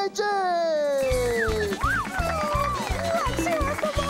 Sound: applause

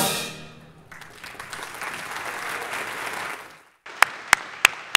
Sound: audience applauding

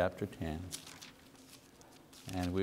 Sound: pages rustling

